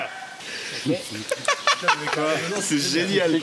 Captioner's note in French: rires